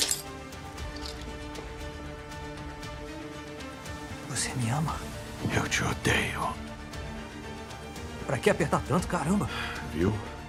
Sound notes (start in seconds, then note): 4.2 whispers; 8.2 in normal voice; 9.8 sighs